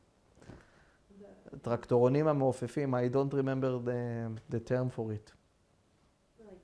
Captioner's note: hebrew